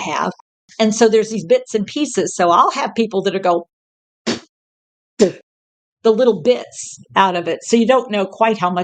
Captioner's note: spit